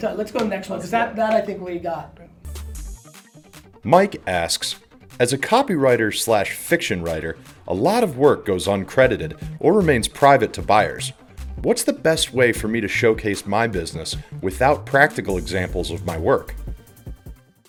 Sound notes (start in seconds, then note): 4.0 voiceover